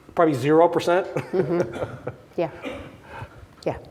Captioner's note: laughs